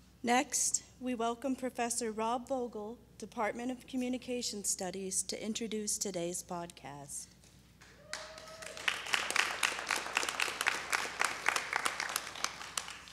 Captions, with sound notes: - Next, we welcome Professor Rob Vogel, department of Communications studies to introduce today's podcast. (audience claps)